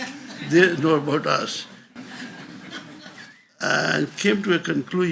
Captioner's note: audience laughs